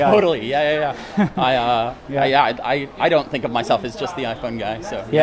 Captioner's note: chuckles